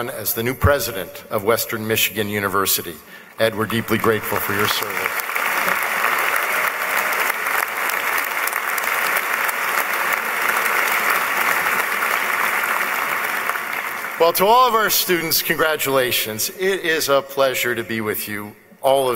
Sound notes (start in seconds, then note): 5.1 applause